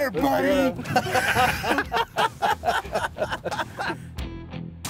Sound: all laughing

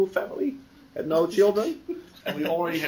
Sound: laughter

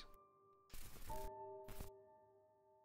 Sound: soft static

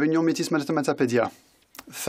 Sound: speaking French

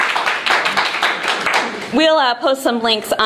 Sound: laughing

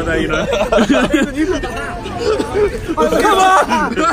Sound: laughing

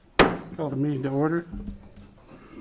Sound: gavel pounding

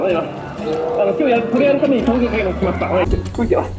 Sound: performer speaks in japanese

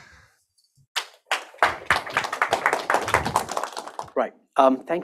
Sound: applause

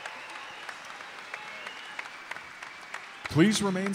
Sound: applause

